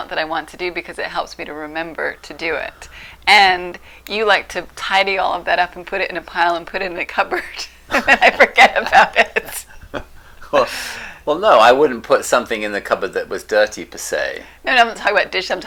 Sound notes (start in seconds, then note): 7.8 laughing